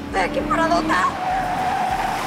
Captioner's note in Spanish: Chirrido de llantas